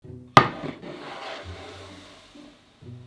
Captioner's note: board sliding